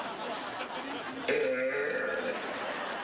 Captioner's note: burp